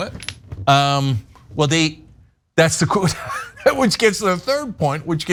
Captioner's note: laugh